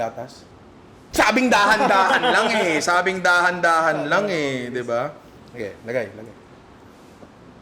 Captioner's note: laughs